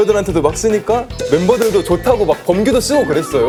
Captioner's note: hahaha